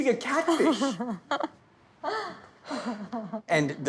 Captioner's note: laughing